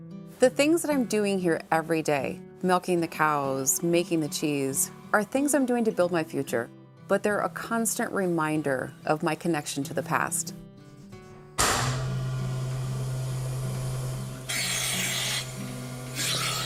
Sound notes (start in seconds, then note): 11.6 system humming; 14.5 vacuum sucking